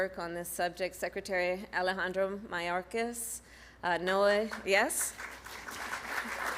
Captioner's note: applause